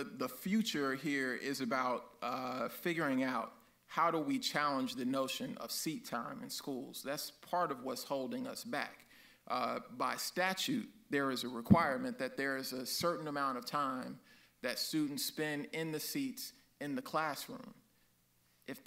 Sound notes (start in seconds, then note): none